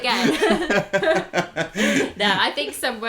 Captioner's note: laughter